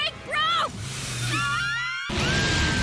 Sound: scream in Speed

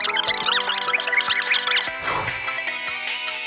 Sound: whew

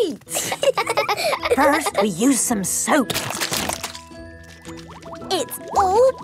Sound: laughing; squirt! squirt!

